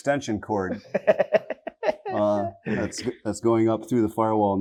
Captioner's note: laughs